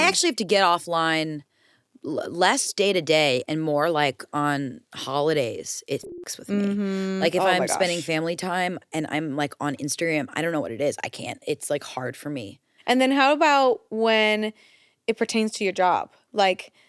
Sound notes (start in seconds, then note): 5.9 beep